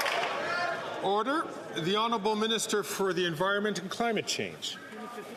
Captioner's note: some Applause